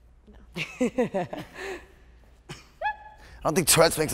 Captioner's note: laughing